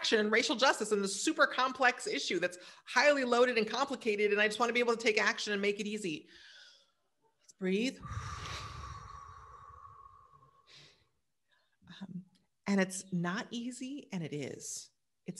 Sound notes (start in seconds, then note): 8.0 exhales